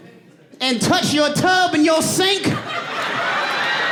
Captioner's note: audience laughing and cheering